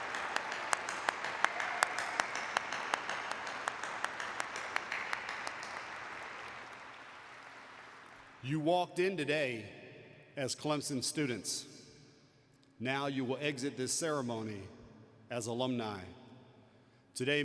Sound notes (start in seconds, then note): 0.0 applause; 2.3 cheers and applause